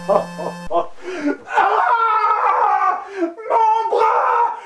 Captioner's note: scream of pain